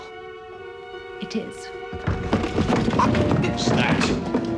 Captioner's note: clattering